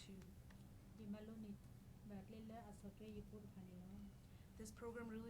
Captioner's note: speaking in foreign language